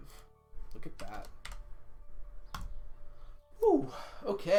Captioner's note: exhales